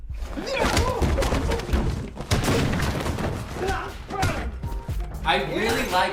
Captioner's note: grunts and screams in combat